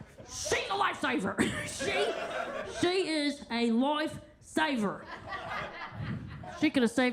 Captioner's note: attendees laughing